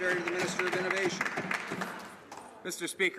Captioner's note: some Applause